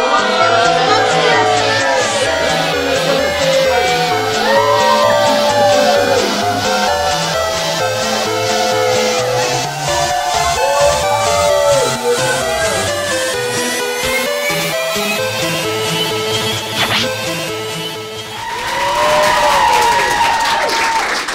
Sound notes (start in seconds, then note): 9.0 cheers and Applause